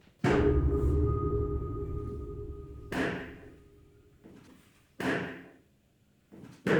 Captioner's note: tense music; cane thumping